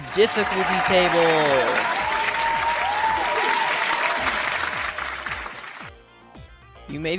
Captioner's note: applause